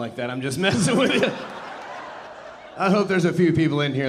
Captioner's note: audience laughing